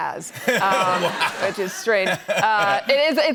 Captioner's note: laughter